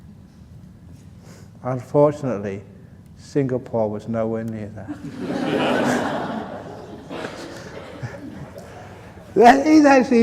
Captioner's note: laughter